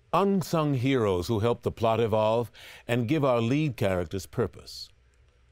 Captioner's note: none